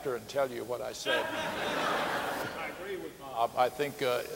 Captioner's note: audience laughing